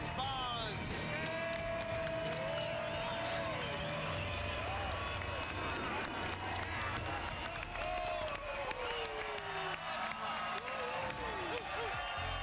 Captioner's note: cheers and applause